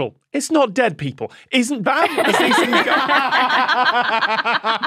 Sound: guests laughing

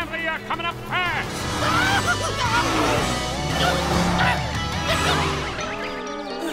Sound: yelling

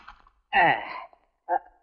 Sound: sighs

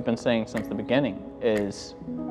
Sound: clock ticking

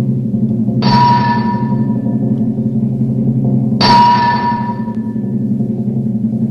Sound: drumroll; hammering

